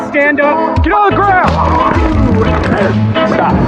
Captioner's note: taser craling